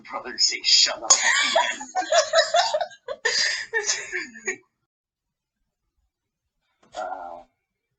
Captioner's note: echoey banshee laughter